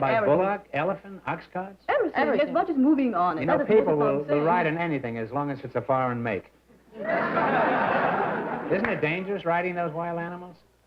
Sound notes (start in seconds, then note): 6.9 laughter